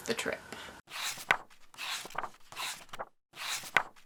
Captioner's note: pages turning